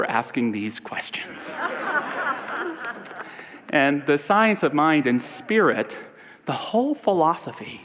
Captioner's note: audience laughter